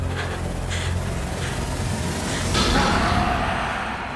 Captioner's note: gasping